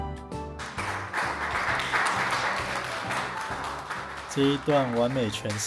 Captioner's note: applause